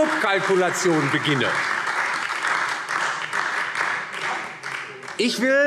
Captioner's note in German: Beifall DIE LINKE und vereinzelt SPD